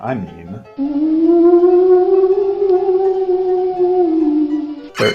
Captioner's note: sound effects